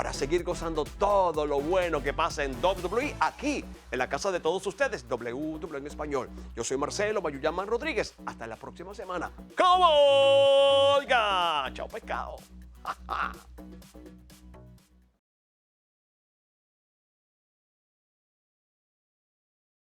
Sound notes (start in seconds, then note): 12.8 laugh